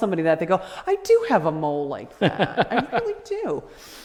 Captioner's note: laughter